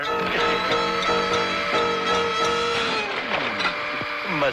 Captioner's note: frenzied music; plate shattering